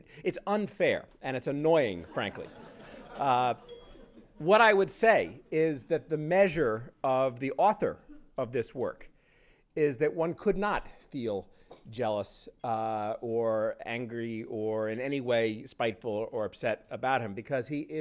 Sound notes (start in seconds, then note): 2.0 laughter